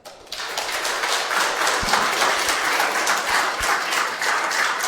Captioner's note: audience applauding